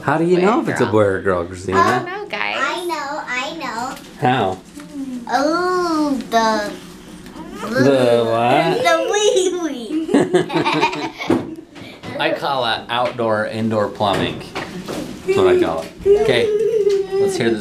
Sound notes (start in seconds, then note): 9.9 laughing